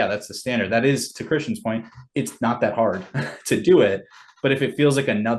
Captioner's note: laughs